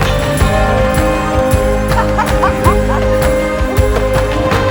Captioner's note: laughs